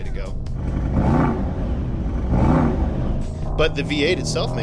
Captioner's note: engine revving